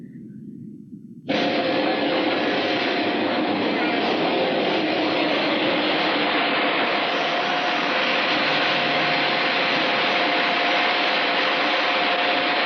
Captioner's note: whining, aircraft-like engine noise